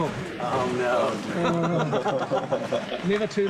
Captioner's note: all laugh